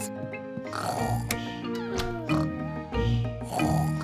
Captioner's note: both snoring